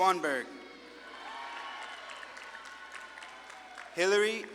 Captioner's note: audience claps and cheers